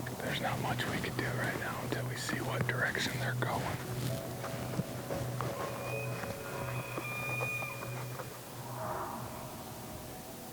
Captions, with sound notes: There's not much we can do right now 'til we see what direction they're goin'. (elk bugles)